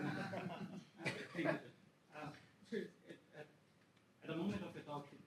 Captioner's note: audience laughs